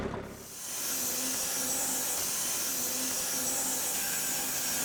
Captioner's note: saw blade whirring